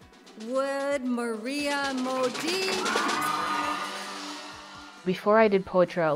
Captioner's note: cheering